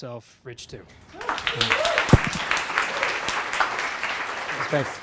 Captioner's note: audience applauding